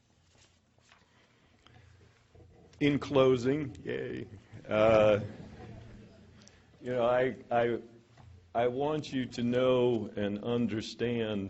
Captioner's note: laughter